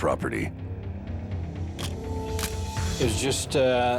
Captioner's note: camera shutter click